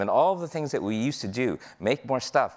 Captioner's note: none